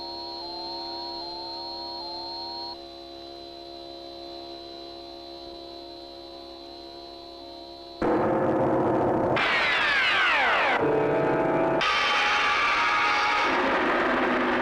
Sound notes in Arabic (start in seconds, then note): 8.0 موسيقى غريبة; 8.0 هدير محرك الصاروخ